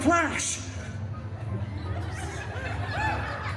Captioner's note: guests chuckling and one cheering